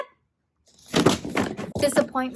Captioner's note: books thumping